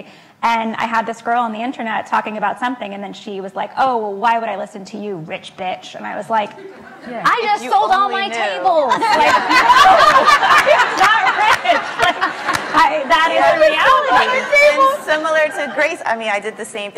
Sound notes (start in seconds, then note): 8.7 laughs; 9.7 laugh